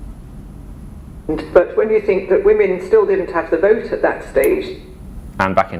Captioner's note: radio on